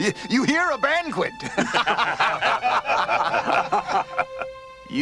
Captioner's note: everyone laughs; laughs